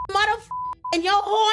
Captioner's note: beep